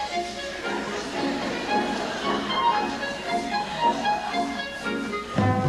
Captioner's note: audience Laughter